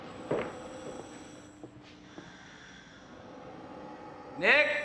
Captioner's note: mechanical wheezing